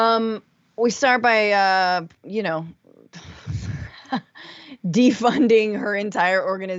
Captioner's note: laugh